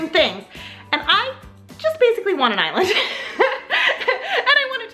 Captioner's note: laughs